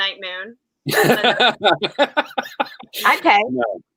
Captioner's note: Santino laughing